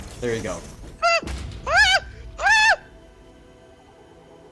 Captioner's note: moaning???